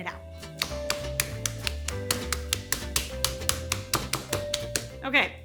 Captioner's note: bright music; mallet thudding